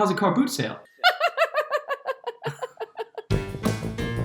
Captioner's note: laughs; bouncy music